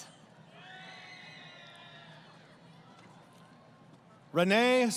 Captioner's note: crowd Cheering